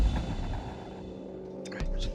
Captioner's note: whispering